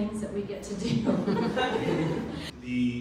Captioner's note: laughing